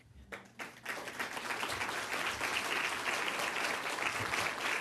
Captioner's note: audience clapping